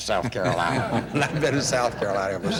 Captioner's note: laughter